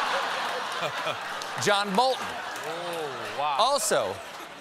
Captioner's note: laughter